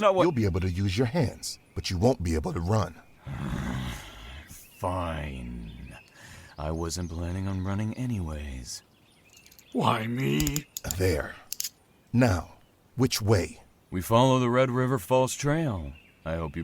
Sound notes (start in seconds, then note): 3.2 annoyed growl; 10.4 handcuffs click closed